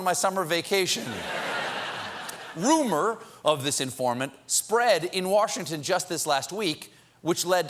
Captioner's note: laughter